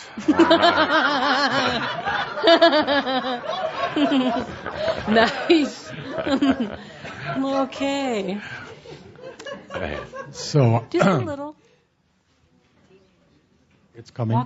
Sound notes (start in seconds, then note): 0.1 more laughter; 5.2 laughing